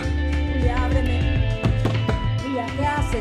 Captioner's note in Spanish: Golpes a la puerta